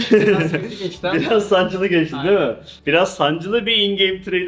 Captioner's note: laughs